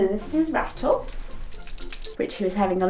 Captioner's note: bell dinging